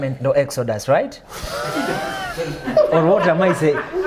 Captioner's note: laughs